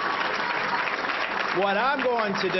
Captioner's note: applause